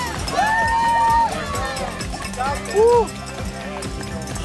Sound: cheering

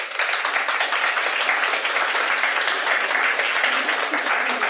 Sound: audience applauding

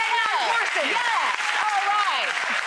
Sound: audience claps

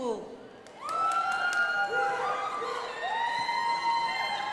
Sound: crowd applauding

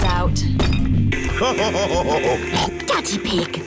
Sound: laughs / honks

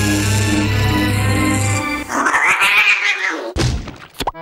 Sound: oggy scream

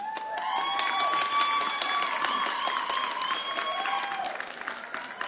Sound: audience cheering

